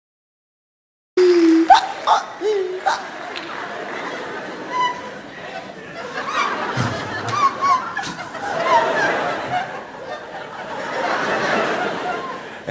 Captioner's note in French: rires